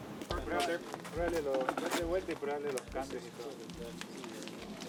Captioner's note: group chatting